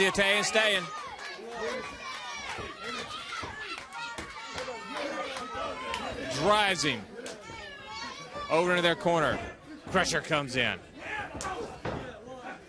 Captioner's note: crowd chatter